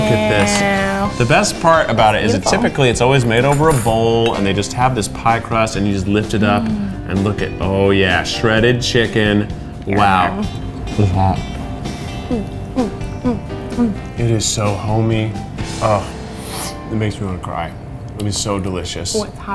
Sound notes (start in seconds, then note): 16.3 sniffs